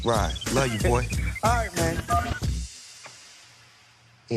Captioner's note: cellphone beeps